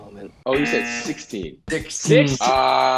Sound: buzzer

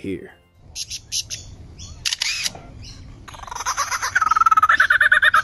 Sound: bird chirps and chatters

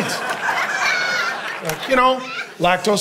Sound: congregation laughing

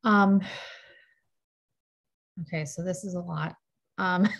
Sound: sighs

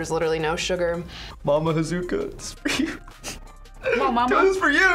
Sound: laughs

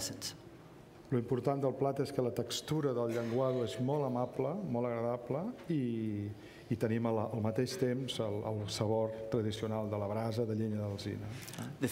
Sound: speaking catalan

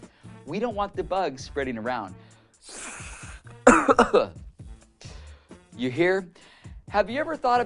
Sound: sneeze, cough

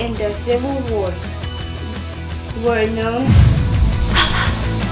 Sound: bell ring

